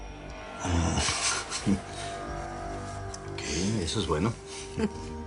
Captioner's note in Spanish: Risas